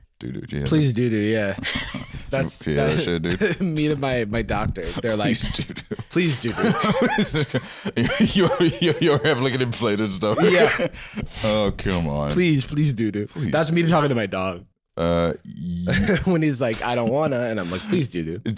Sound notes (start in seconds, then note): 7.3 laughing